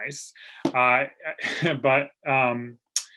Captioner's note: chuckles